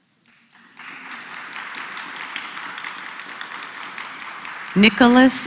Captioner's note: applause